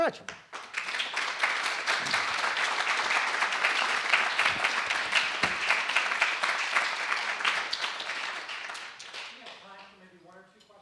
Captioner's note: <i>Applause</i>